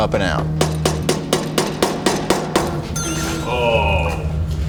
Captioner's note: hammer banging